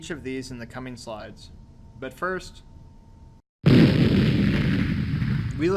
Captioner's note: explosion sound effect